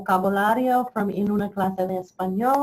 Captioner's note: speaks in foreign language